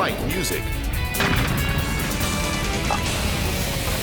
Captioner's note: piano explodes; exciting music continues